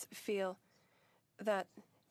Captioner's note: speaking French